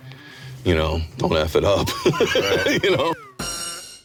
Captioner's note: laughs